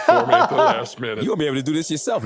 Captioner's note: laughing